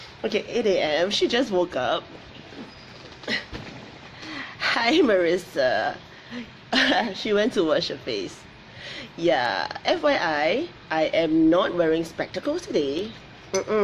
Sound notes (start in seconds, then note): 6.9 laughs